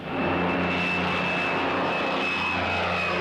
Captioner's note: whirring